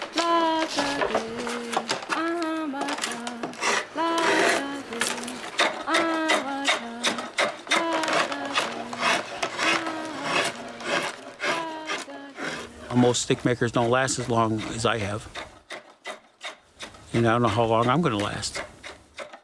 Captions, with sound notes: [ shaving wood ] Most stickmakers don't last as long as I have. You know, I don't know how long I'm gonna last.